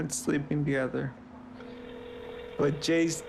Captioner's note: phone ringing